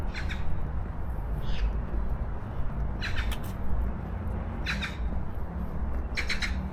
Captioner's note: magpie sound